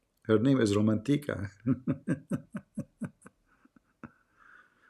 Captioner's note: Ketawa